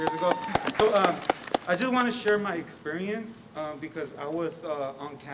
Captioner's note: applause